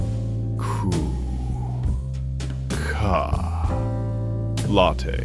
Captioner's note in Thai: เสียงหายใจเวเดอร์